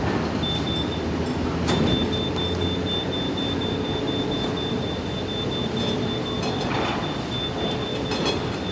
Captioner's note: alarm beeping rapidly